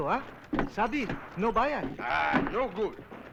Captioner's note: non-english